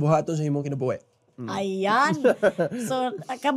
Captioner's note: chuckles